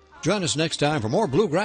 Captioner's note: voiceover